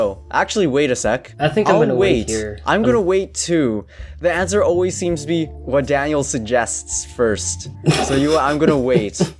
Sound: giggles

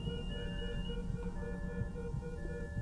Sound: beeping stops

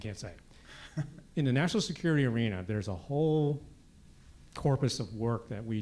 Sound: laugh

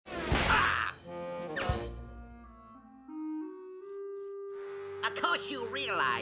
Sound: Bugs groans; thuds

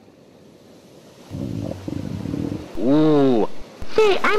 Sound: stomach growling

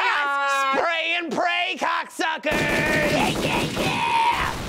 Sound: guns firing

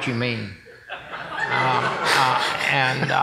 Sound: laughing

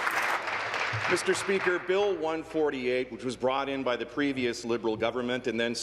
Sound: applause

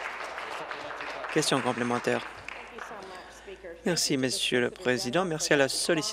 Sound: applause

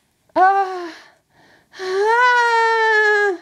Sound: yells

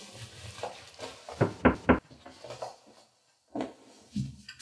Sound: knocking at the door

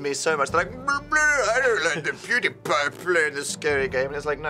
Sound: derpy accent

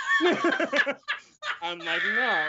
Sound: both laugh; laughs

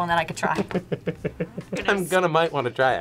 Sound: laughs

